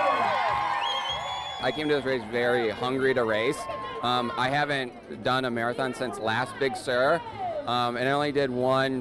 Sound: applause

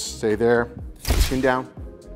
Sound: camera shuttering

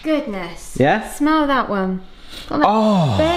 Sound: inhales

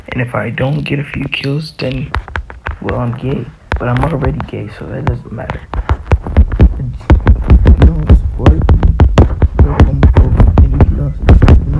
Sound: random static

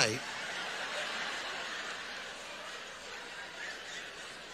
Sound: audience laughs

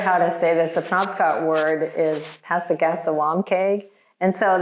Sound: speaks Indigenous language

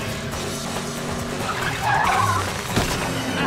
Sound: tires screeching

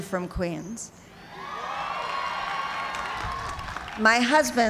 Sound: cheers and applause

